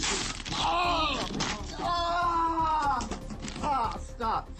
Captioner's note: screaming